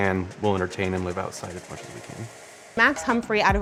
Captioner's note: murmurs